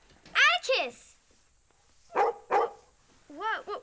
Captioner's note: barking